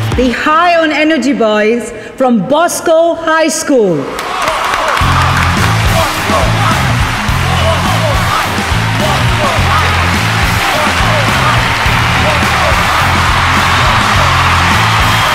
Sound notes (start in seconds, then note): 4.2 All cheering, clapping